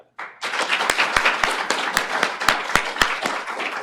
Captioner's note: applause